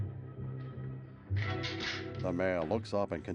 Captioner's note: gun cocks